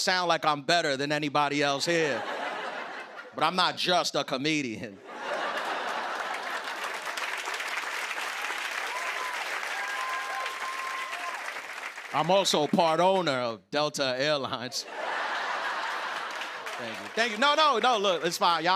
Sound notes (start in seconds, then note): 2.0 laughter; 5.0 laughter and applause; 14.7 laughter